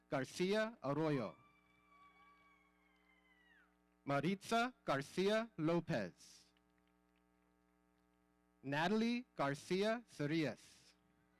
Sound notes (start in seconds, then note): 1.2 audience cheering